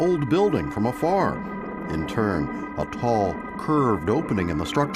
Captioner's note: thunder rumbling